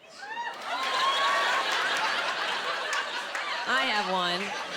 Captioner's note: cheering